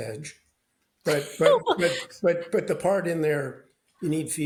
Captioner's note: laughs